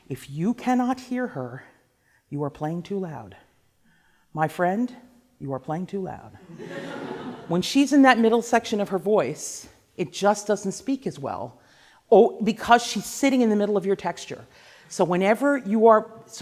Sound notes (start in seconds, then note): 6.5 laughing